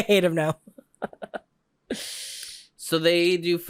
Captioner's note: laughs